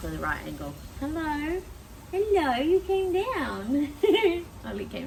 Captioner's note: giggles